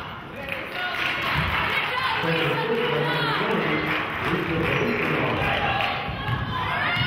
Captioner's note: cheering and clapping